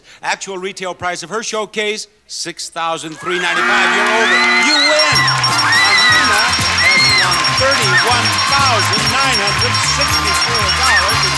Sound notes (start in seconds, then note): 3.7 buzzer buzzes; 5.8 audience cheering and clapping